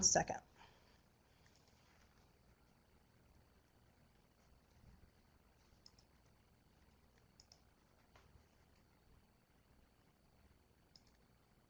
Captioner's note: no sound while presentation is loading